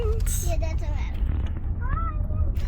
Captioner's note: children in background